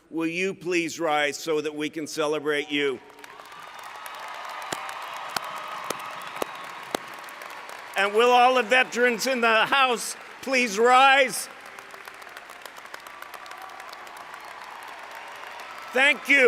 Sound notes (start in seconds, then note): 4.0 cheering; 12.0 applause